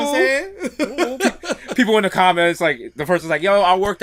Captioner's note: laughs